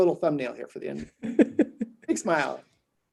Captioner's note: laughing